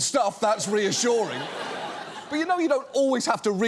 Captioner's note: studio audience laughs